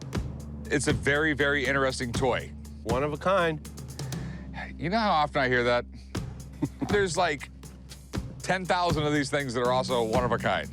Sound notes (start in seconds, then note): 6.6 laughs